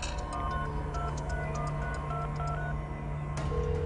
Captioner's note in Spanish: Sonido al marcar